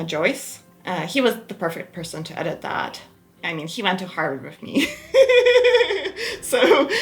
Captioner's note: laughs